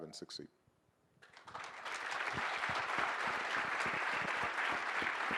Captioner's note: audience applauding